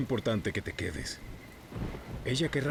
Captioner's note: thunder rumbling